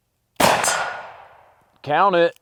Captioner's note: gun shooting